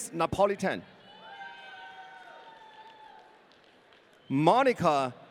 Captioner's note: audience cheering